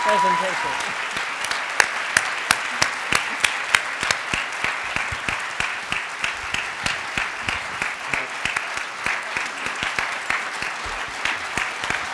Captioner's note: nearly endless clapping